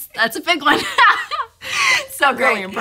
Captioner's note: laughs